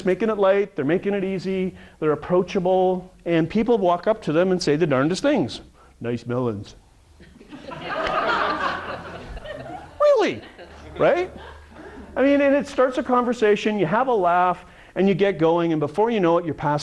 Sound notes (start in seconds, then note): 7.2 audience laughter